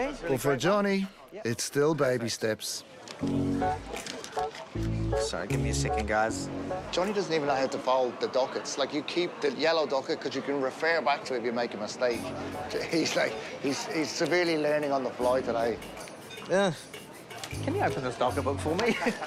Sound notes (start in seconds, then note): 3.2 curious music; 12.6 laughing